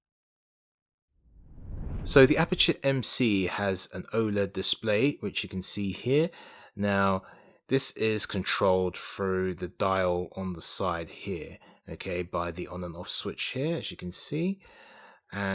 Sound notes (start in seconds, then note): 1.3 swooshing